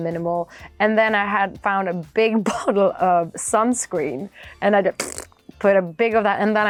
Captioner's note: phhht